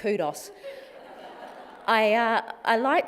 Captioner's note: laughter